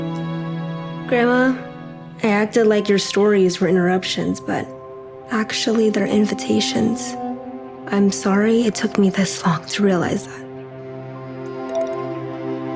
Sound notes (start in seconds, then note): none